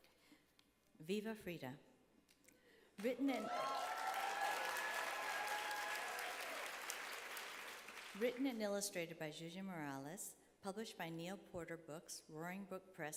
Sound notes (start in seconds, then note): 3.0 applause